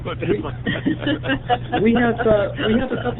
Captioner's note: laughter